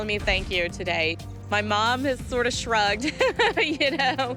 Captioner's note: laughs